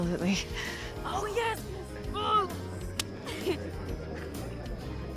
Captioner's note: high-five clap